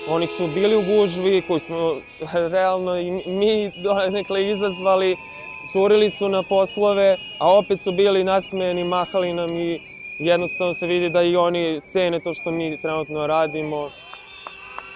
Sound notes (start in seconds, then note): 13.9 aplause